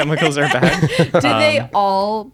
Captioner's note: laughter